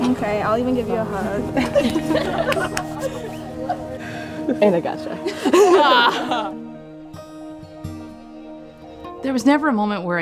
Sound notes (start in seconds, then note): 1.5 women laugh; 6.9 calm music